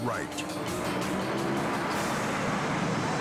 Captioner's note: traffic whirring; dramatic music continues